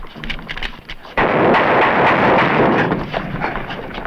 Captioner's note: gunshots